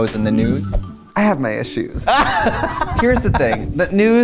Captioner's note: laughs